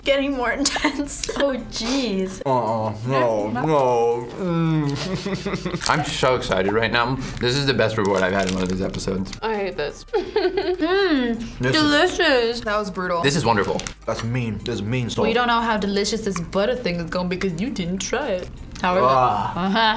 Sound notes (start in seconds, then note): 4.8 whimpers; 10.2 laughs